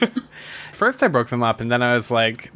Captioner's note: laughs